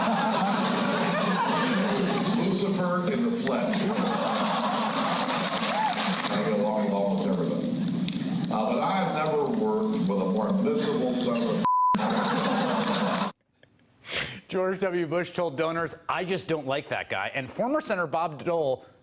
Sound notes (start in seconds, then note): 3.7 laughter